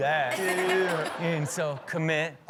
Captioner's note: all laugh